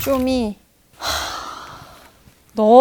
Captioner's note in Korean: 깊은 한숨